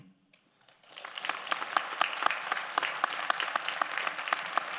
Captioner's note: all applauding